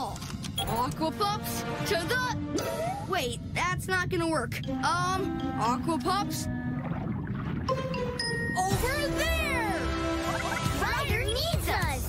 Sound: beep; Pups Tags Beeping

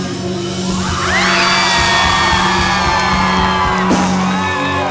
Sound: cheering

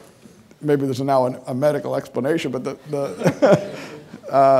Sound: laughing

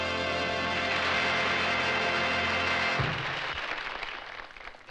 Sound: crowd applauding

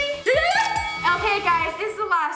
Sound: bell dings

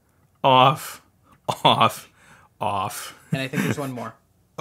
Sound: laughs

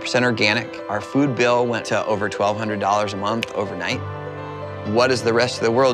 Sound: snaps

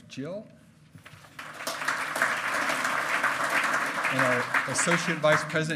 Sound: loud clapping

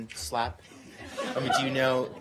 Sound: laughter

